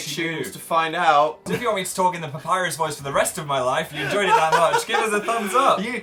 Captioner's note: laughs